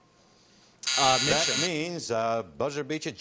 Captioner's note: buzzing